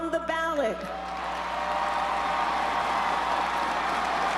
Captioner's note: crowd cheers